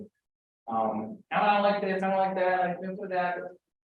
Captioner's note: mockingly